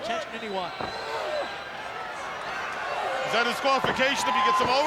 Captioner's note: body thudding; wrestlers grunting